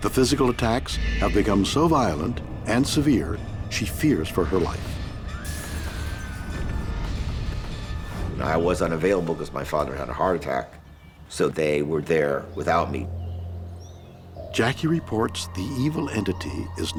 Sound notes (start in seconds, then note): 5.4 glass shatters; 5.6 screams; 13.4 birds chirp; 13.4 dark brooding music